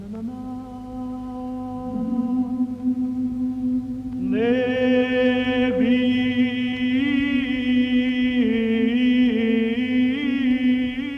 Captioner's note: chanting